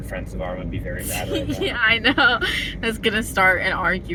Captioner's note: laughing